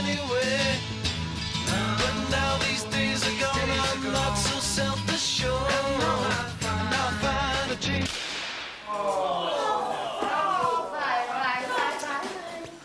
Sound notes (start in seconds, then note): 8.2 music stops; 9.3 all exclaiming disappointedly